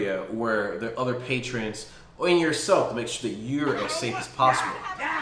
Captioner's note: video playing commotion